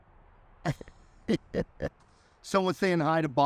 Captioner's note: laughs